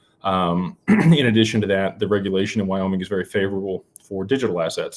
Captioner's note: clears throat